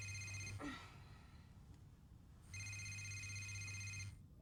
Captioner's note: Liz grunts